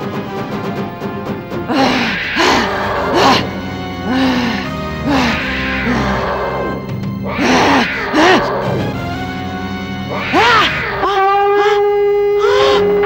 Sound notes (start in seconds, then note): 1.6 grunting